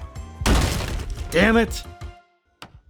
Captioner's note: breaking noise